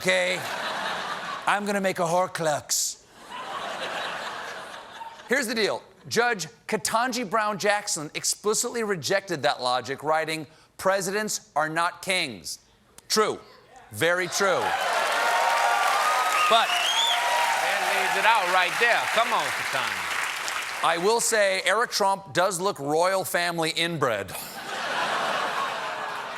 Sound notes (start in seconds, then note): 16.9 cheers and applause